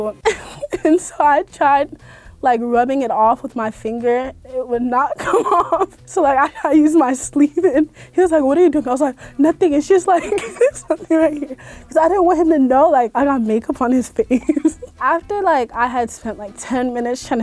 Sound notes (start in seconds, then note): 10.1 laughing